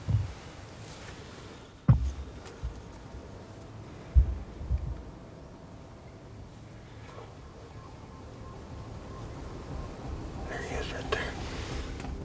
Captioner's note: whispering